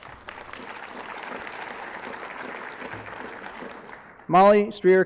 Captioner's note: applause